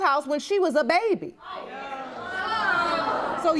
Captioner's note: audience gasps